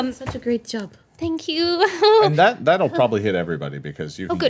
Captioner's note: laughs